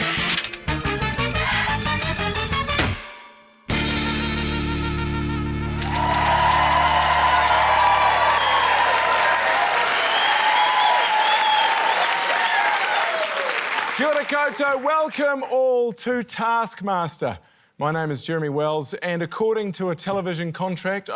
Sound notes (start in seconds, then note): 0.1 wheel clicks; 1.5 exhales; 2.8 clunk!; 8.3 ding!; 10.6 cheering, applause